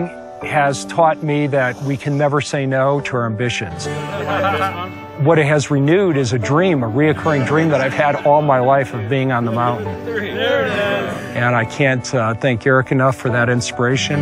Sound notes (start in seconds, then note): 3.8 laughing